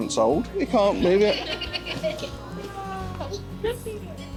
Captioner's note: children laughing